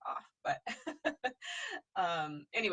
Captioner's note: laughing